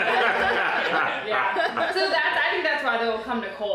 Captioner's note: laughing